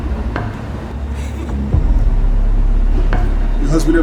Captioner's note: Raquel sobs